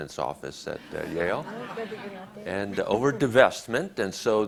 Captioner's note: audience laughs